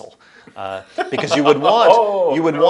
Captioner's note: laughs